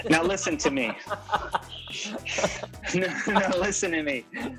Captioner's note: Ben laughs